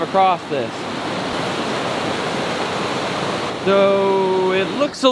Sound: water rushing

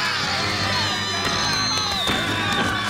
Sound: screaming

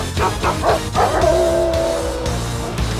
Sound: howling

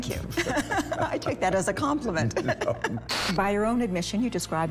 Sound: laughs

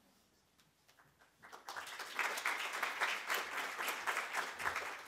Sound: applause

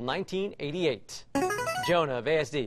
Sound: buzzer plays

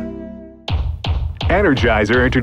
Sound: mallet bangs

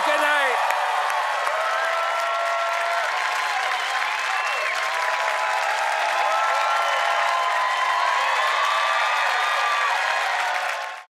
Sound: applause

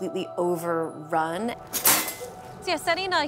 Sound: trap snapping shut

